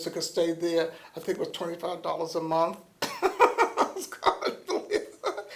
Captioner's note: laughter